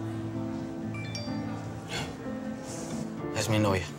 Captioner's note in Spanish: Alerta de mensaje de texto